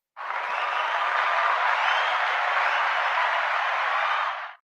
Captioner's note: applause